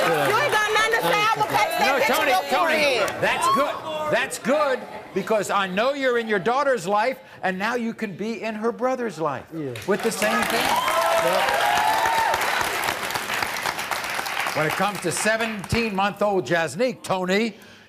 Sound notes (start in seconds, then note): 12.1 audience applauds